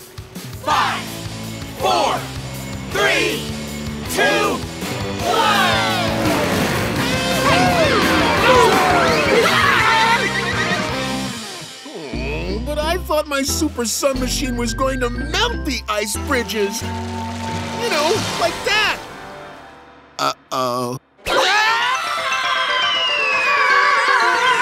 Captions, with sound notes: Five, four, three, two, one! [yelling] Ugh, but I thought my super sun machine was going to melt the ice bridges! You know, like that! Uh oh. [screaming]